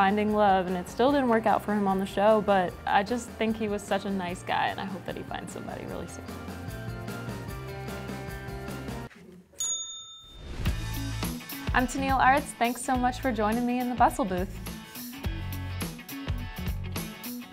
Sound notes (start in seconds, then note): 6.9 upbeat music; 9.6 bell rings; 14.7 upbeat music